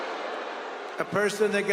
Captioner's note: cheering